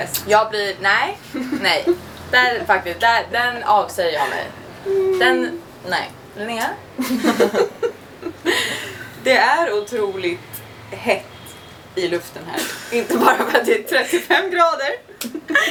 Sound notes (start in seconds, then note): 7.9 laughs